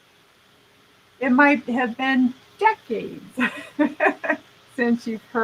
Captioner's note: laughing